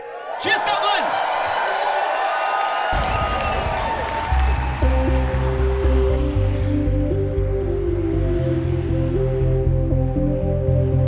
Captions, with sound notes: Cheers Dublin! (crowd cheers) (synth music)